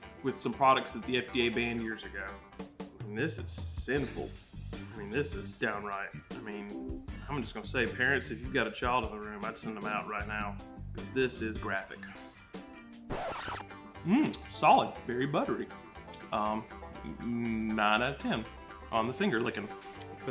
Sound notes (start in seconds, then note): 1.7 jazzy music; 13.0 record scratching; 13.7 bright banjo music